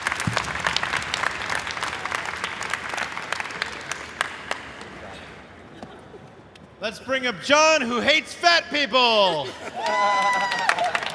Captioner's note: applause